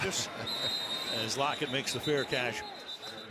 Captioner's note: whistle blowing